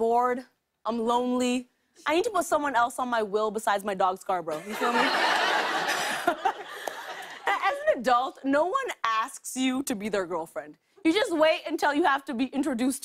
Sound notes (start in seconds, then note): 4.6 laughter